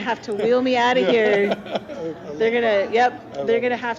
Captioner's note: laughing